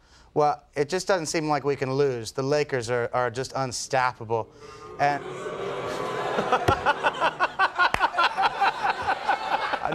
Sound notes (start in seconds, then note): 4.5 crowd booing; 7.0 Conan laughing